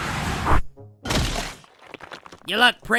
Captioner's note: crash